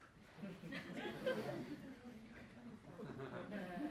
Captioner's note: laughter